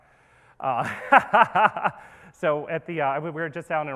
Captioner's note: laughs